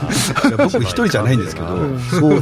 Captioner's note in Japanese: 笑い